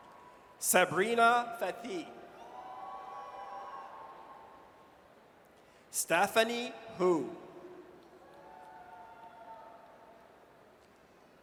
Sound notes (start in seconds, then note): 2.4 audience cheers; 8.2 audience cheers